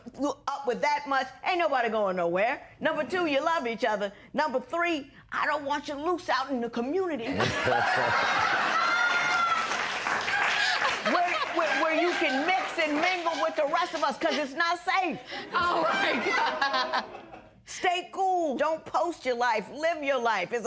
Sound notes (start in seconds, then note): 7.2 laughter